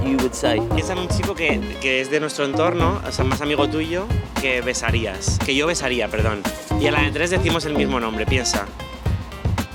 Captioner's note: asks question in spanish